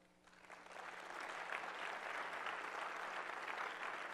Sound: audience applauds

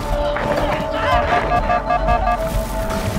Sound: HUD alarm beeps

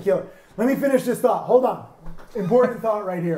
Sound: chuckles

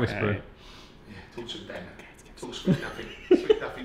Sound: whispers

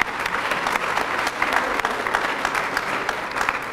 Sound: applause

